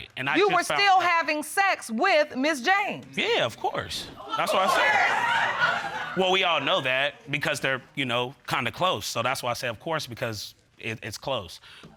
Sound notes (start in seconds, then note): 4.4 audience laughs